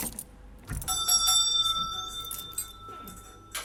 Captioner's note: shop bell sounds